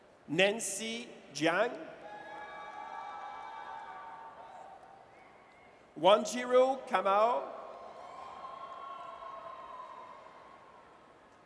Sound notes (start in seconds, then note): 2.0 audience cheers; 7.5 audience cheers